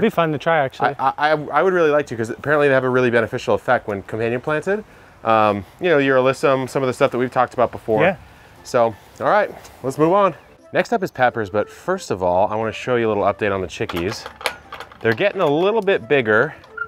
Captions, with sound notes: - It'd be fun to try actually. - I would really like to, 'cause apparently they have a really beneficial effect when companion planted. You know, your alyssum, some of the stuff that we've talked about before. - Yeah. - So, all right. Let's move on. Next up is peppers, but first of all, I wanna show you a little update on the chickies. (door handle rattles) They're getting a little bit bigger.